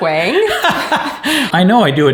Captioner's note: laughing